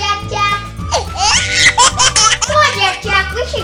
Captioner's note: laughs